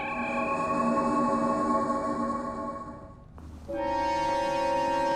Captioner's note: high pitched humming; foreboding music